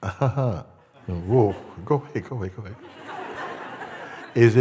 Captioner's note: Lachen